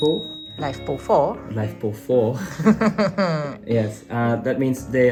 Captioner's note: laugh